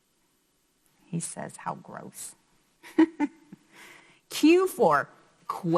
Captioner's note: chuckles